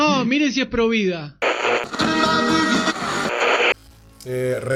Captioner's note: radio tune